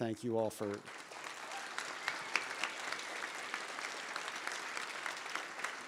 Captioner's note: audience applauding